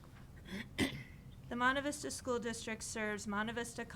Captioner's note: clears throat